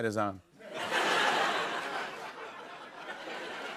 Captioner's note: laughter